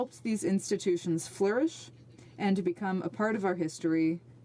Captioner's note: speaking French